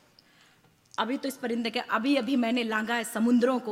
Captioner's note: speaks foreign language